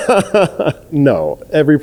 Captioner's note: laughing